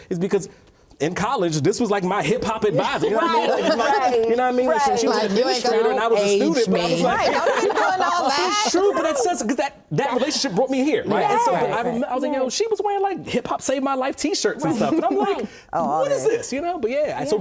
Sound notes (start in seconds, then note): 7.1 laughing